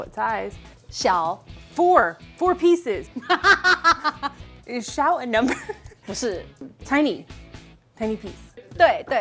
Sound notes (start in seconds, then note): 1.0 speaking in mandarin; 3.2 laughs; 4.9 speaking in mandarin; 8.9 speaking in mandarin